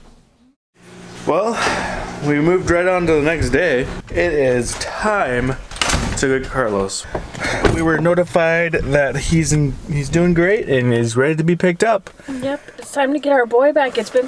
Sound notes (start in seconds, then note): none